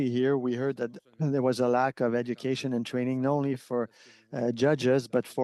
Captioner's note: speaking French